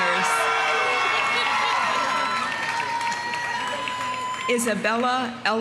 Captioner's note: audience cheering; audience applauding